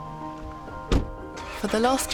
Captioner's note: slam